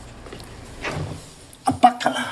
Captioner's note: a/c clunks off